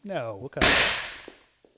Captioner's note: huge pop